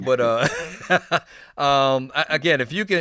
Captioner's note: Tigger giggling